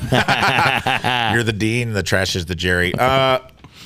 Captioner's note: laughing